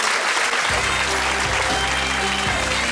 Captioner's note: audience cheering